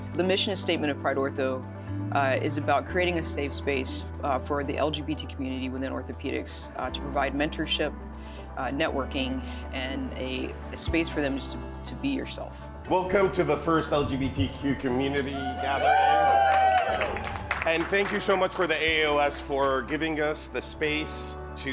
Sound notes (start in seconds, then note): 15.7 applause